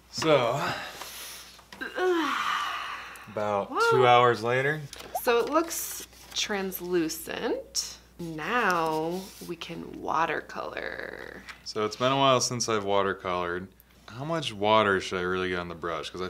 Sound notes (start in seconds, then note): 1.8 deep sighing